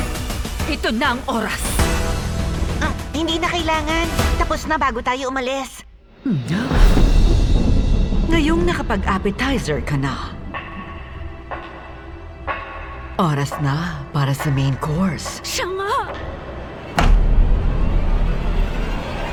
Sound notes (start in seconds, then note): 6.2 gulps; 6.8 music fades; 6.8 thunder rumbles; 10.5 footsteps approaching; 16.7 tense music builds